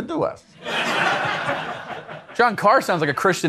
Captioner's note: attendees laughing